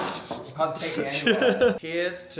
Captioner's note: Phil laughs